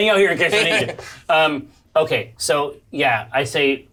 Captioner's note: all laugh